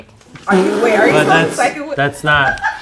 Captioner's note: sputters; woman laughs in background